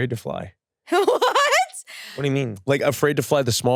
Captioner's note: laughs